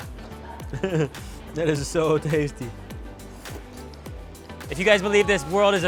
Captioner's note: laughing